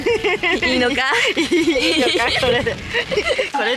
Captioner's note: laugh